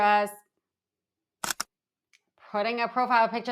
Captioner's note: camera clicking